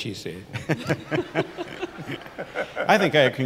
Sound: everyone laughs

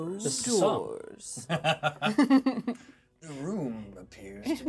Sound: laughs

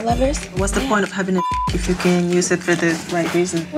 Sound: beep

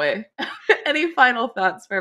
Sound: laughter

